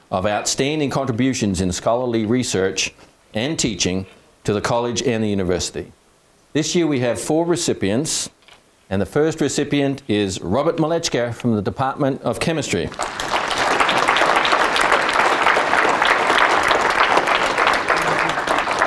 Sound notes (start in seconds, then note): 12.8 audience clapping